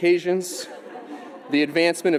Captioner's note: audience laughing